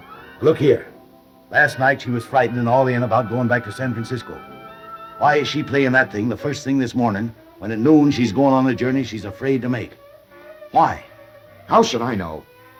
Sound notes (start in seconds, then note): none